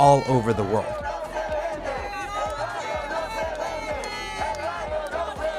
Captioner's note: crowd chanting